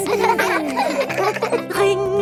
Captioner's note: giggling